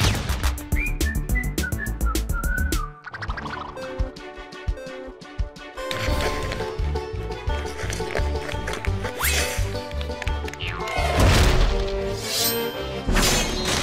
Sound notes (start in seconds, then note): 3.7 timer beeping